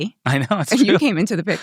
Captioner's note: laughs